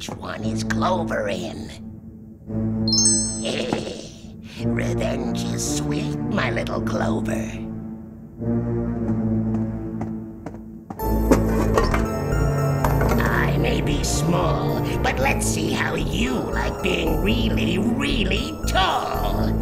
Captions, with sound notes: Which one is Clover in? [evil laugh] Revenge is sweet, my little Clover. I may be small, but let's see how you like being really, really tall.